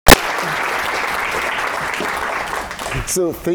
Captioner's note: applause